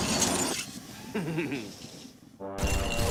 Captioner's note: chuckles evilly